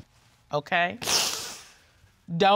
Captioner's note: sniffles